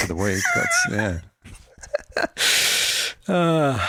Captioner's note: laughs